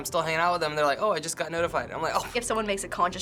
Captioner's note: huffs